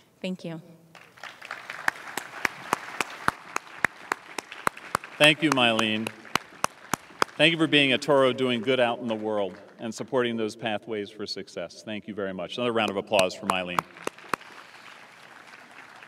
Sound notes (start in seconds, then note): 1.4 applause